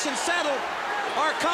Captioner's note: crowd cheering